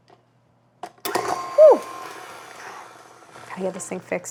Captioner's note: mixer whirring